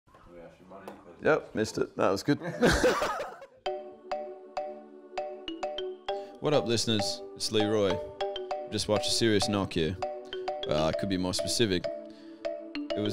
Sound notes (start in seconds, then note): 2.4 laughter; 3.6 upbeat music